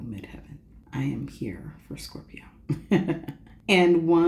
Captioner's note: laughs